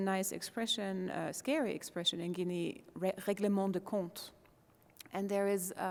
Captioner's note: foreign language